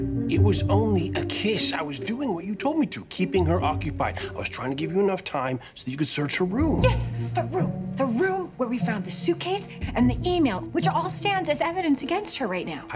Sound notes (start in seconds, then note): none